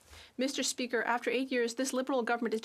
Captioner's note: speaking French